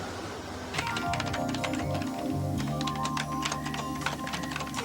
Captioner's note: keyboard clicks